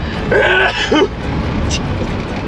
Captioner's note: sneezing